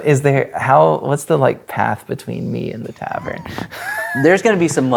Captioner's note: laughs